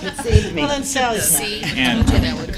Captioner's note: laughter